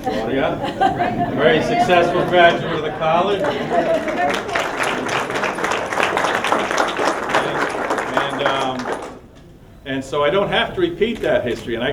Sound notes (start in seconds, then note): 0.0 laughter; 3.7 applause